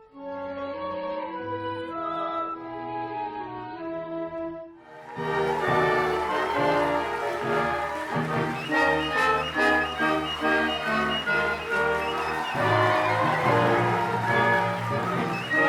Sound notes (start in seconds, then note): 4.6 audience applause & cheering